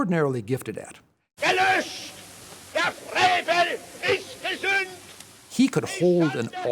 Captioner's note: speaking German